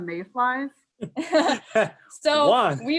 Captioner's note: laughter